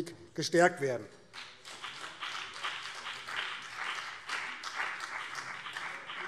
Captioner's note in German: Beifall BÜNDNIS 90/DIE GRÜNEN